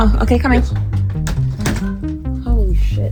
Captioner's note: door shuts